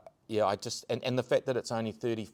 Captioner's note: none